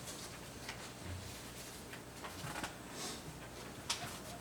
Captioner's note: documents shuffling